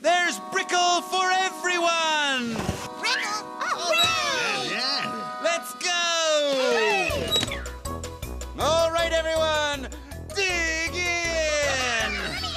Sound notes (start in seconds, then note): 4.4 little cats exclaiming